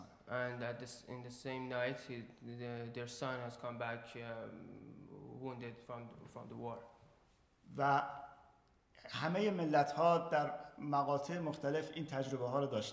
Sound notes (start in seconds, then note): 7.7 speaking in farsi